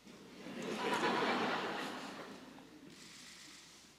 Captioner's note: laughter